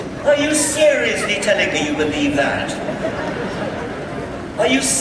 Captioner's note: audience laughter